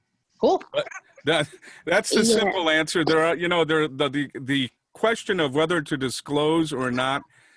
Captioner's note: laughing